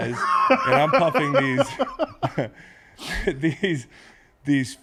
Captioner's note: laugh